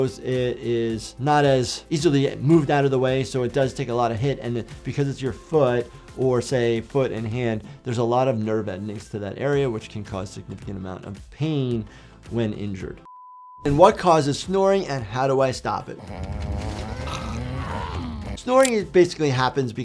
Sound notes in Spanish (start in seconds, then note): 16.0 Homero roncando; 16.3 Marge gime